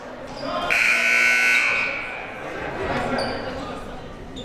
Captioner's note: buzzer